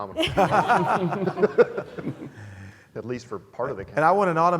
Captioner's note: laugh